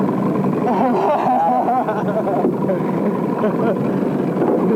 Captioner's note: laughter